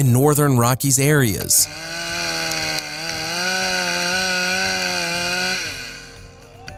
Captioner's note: sound of a chainsaw